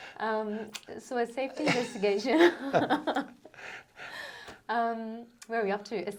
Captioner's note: both laugh; both laugh